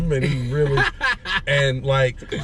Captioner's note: laughter